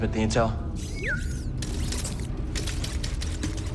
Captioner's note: bd-1 chirps